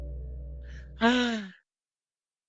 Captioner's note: Jimmy Exhales